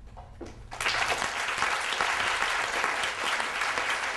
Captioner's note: audience applause